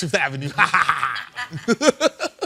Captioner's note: imitating laughter